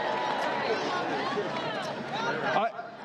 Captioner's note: applause